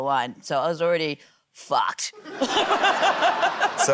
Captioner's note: laughter